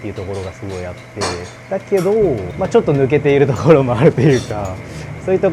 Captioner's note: laugh